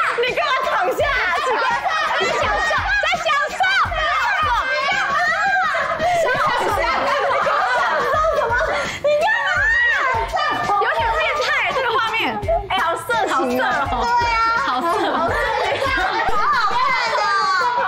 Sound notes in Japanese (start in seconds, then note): 9.4 叫び